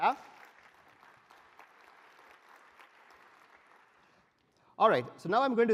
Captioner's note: applause